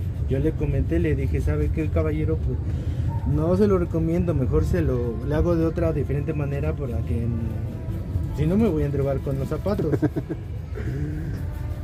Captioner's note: laughs